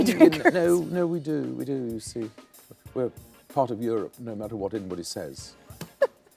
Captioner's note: laughs; laughs